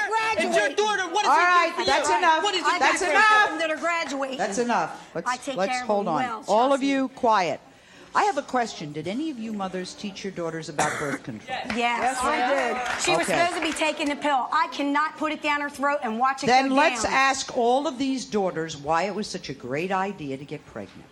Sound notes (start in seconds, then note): 11.4 all shouting affirmatives